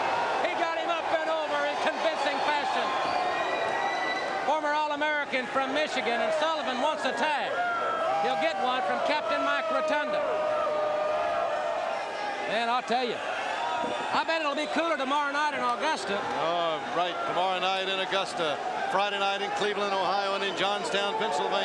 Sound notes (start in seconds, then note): 0.1 crowd cheering; 10.9 crowd chatter